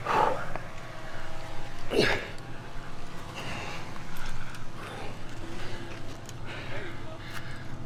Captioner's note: intense Nonstop Breathing